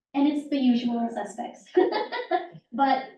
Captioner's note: laughs